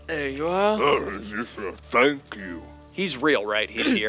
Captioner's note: ettin noises